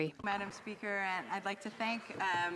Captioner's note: speaking FRENCH